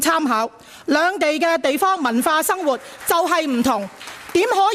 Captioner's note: sporadic clapping